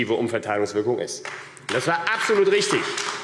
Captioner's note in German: Beifall AfD